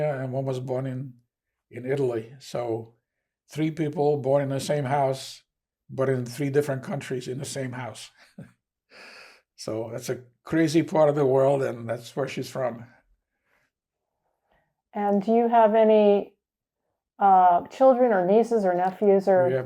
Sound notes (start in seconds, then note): 8.4 laughing